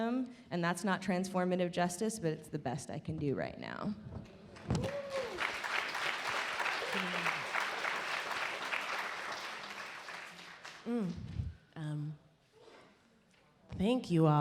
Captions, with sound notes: and that's not transformative justice, but it's the best I can do right now. (audience applaud) - Thank you all.